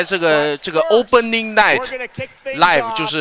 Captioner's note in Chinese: 大笑